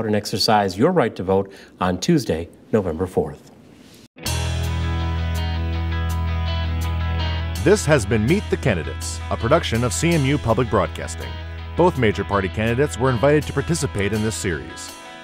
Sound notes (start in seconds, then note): 7.6 voiceover